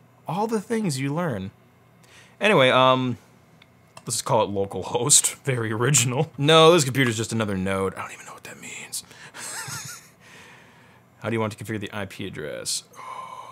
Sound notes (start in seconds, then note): 9.4 laughs